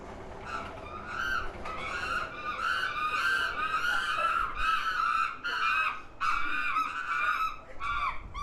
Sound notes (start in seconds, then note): 0.4 chimps screaming